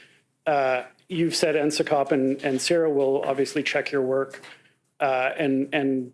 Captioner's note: speaking French